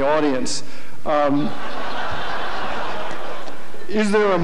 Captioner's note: audience laughter